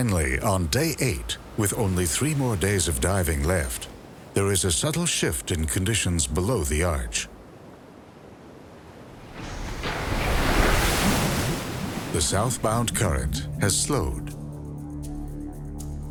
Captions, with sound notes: Finally on day eight, with only three more days of diving left, there is a subtle shift in conditions below the arch. (splashing) The southbound current has slowed.